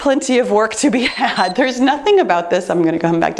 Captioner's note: timer beeps